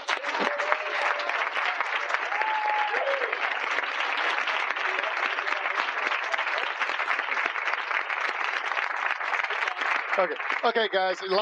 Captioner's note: applause